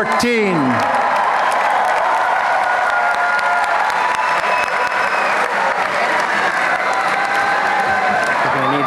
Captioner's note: applause and cheering